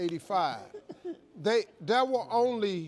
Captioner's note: guest giggling